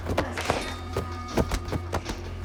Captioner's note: Ben and Tyler rustling; knife clatters; dramatic music